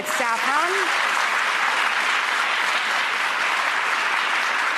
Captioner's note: audience applauding